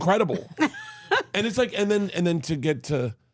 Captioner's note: laughing